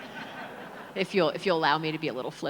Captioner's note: audience laughs